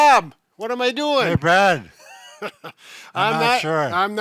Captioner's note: laughing